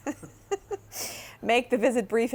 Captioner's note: giggles